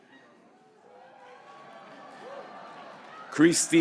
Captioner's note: graduates cheering